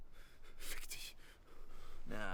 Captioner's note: speaks German